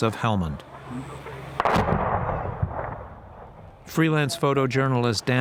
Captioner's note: distant explosion